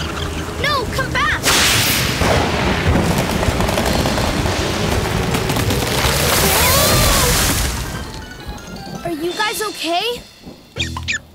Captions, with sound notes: No, come back. [thundering] Whoa! Are you guys okay?